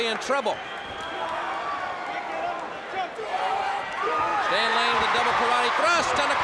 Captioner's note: crowd chatter